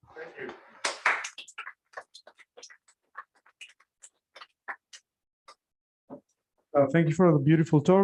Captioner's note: applause